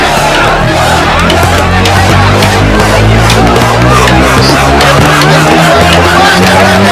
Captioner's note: protest Commotion